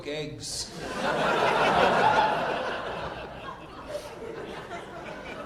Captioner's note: audience laughing